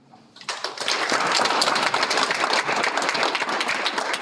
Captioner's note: Aplodit